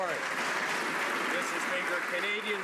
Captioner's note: some Applause